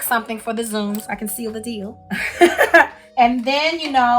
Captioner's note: chuckles